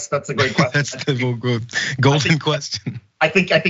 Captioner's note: laugh